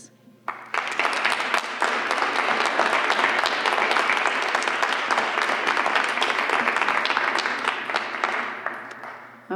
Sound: applause

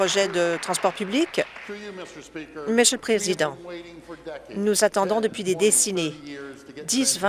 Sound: applause

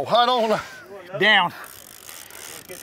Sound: reeling noises

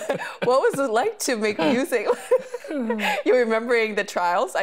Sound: laughing

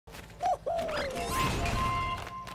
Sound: whistle Blowing

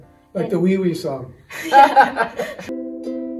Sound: all laugh

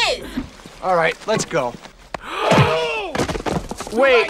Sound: gasps

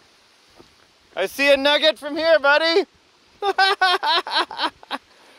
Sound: laughs

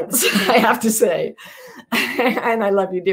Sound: chuckles

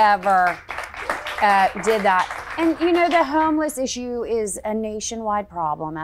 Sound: audience and staff applauding

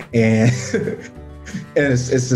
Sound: laughter

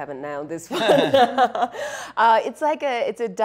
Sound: laughing

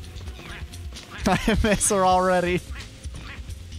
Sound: laughs

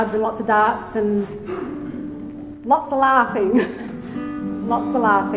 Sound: laughs

